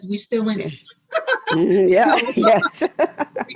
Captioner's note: laughing